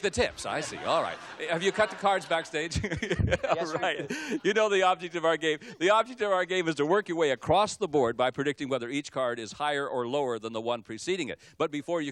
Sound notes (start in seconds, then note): 0.4 laughter; 3.5 laughs